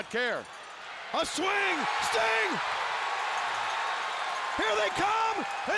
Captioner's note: audience cheering